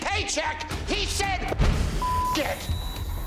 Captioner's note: beep